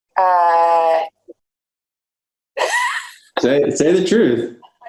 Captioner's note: laughs